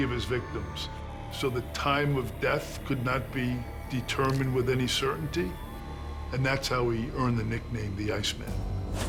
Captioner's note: none